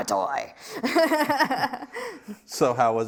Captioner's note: laughs